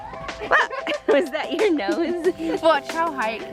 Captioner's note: exclaims